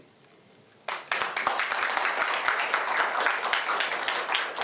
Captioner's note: applause